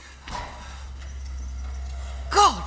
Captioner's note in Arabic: صوت البلدوزر